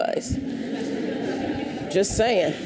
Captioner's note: audience laughs